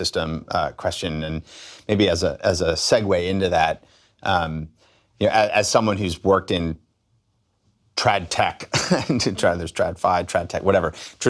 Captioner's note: chuckles